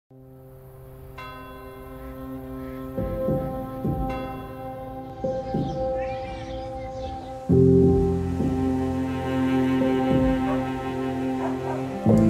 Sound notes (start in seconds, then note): 1.2 bell ringing; 5.8 upbeat piano music